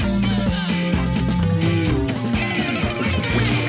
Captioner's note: water splashing